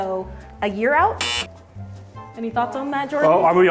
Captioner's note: buzzer tone